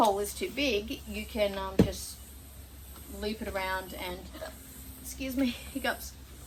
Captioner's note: hiccups